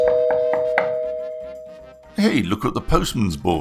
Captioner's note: door bell